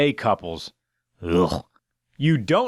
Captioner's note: sound of in clear disgust